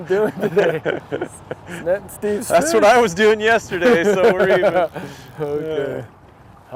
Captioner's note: laughing